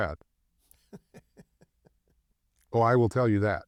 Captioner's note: laughs